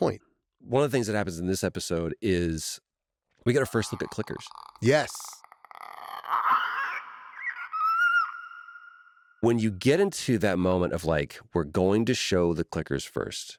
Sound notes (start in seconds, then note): 5.7 clicker screeching